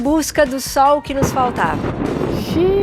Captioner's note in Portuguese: trovão ressoa